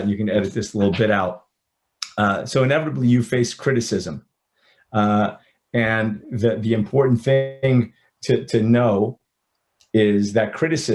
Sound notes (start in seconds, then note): none